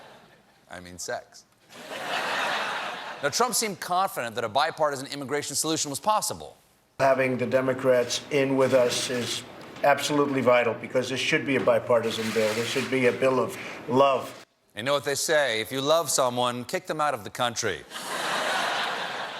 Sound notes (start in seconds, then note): 1.7 laughter; 17.9 laughter